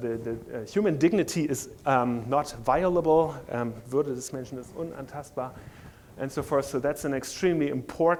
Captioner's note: speaking german